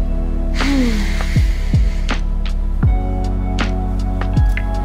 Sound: Mary sighing in relief

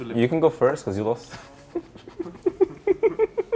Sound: snickers; giggle

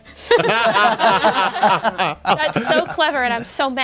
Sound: everyone laughs

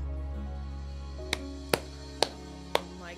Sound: clapping

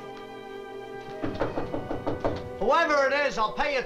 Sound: knocking

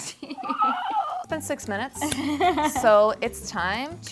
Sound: laughs; both giggle

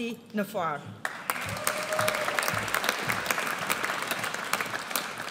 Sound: audience applauds

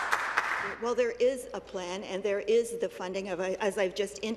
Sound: some Applause

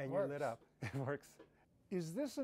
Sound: laughter

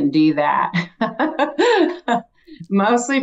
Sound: laughs

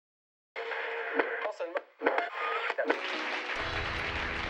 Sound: TV static; sitcom playing on TV

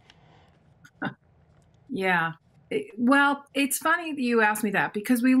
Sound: sniggers

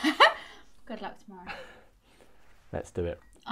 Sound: laughs; chuckles

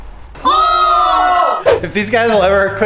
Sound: all cheering

